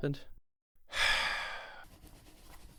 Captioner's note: Brain sighs